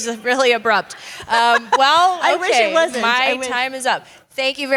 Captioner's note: laugh